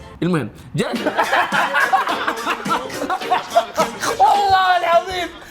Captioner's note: laughing